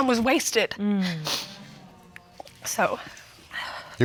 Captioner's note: sniffling